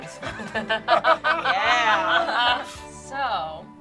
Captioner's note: group laughs